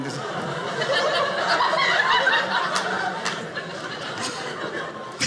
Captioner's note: audience laughing